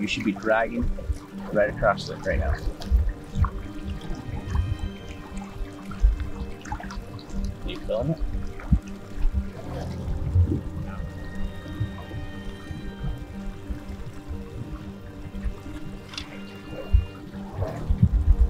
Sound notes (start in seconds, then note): 2.9 gentle music; 3.8 water bubbling; 11.6 gentle music